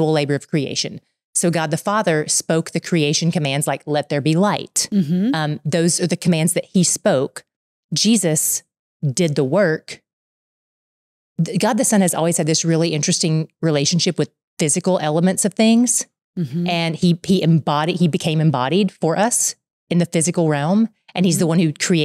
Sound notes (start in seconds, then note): 12.9 laughing